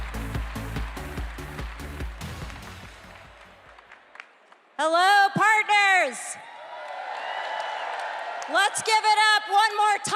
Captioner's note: cheers and applause